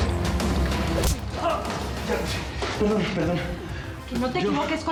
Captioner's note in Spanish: ruido de la bofetada